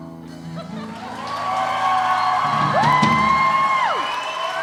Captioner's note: cheering and applause